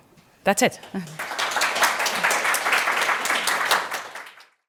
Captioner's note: audience applauds